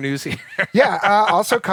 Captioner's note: laughter